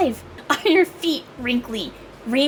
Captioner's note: laugh